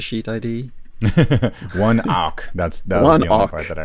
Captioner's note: laughs